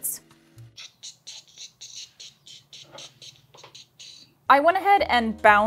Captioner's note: mouth percussion